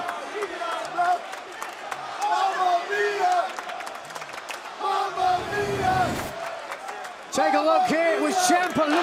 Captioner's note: crowd cheering